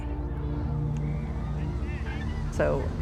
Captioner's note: children calling in background